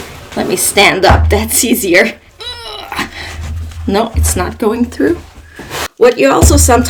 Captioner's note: sounds of exertion